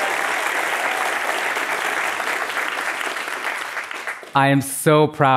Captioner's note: applause